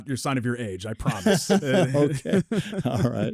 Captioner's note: group laughs